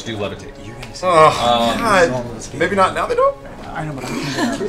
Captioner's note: groans